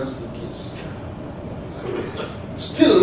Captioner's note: laugh